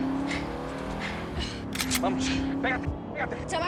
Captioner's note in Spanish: Sonido al cargar el arma